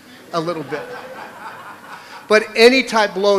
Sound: laughter

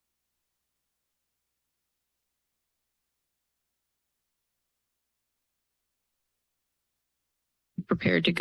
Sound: silence

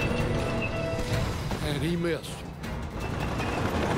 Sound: tank meatal squeaking; cannon shot exploding

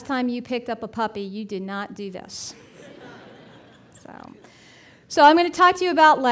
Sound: audience laughing

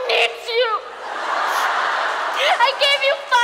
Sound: audience laughs

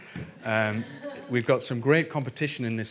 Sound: audience laughing

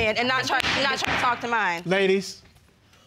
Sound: judge keith banging gavel

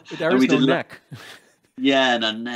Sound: chuckles

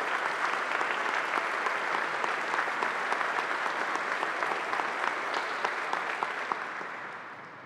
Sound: applause

